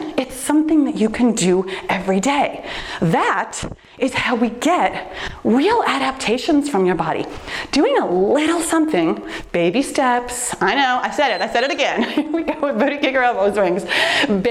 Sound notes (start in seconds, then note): 11.2 timer beeps